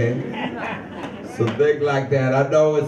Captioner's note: audience member chuckles